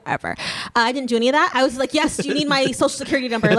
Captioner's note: laughing